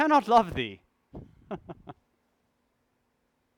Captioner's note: laugh